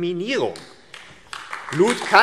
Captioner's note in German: Beifall AfD